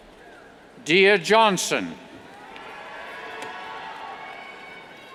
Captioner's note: cheers